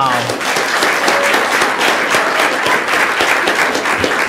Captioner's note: audience applauding